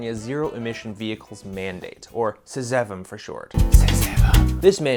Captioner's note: dramatic whisper